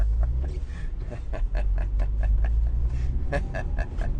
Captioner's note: laughing